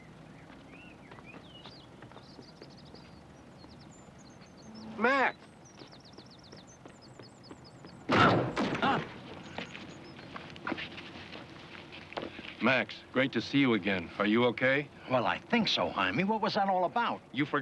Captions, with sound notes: (birds chirp) - Max! (thuds) Max, great to see you again. Are you okay? - Well, I think so, Hymie. What was that all about?